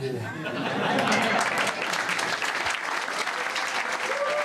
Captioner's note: audience applauding